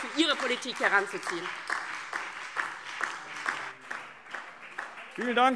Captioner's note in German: Beifall DIE LINKE, vereinzelt BÜNDNIS 90/DIE GRÜNEN und SPD